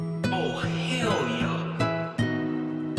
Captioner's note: distant & echoey